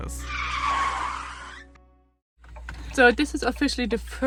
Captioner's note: tires squealing